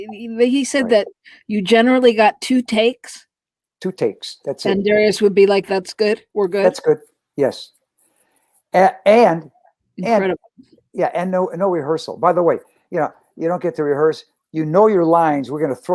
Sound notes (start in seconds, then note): none